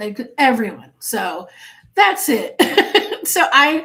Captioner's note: laughing